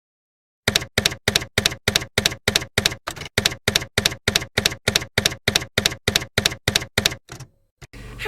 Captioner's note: typewriter keys clacking